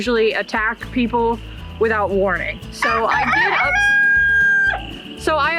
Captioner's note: rooster crows